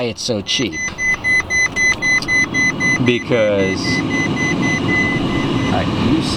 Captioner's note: warning beeps repeat; still beeping